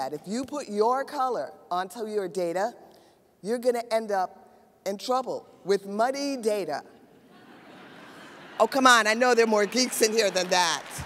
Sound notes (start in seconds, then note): 7.2 audience laughs